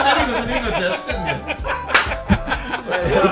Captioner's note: clap